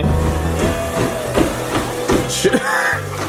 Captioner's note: upbeat music; treadmill whirring; laughs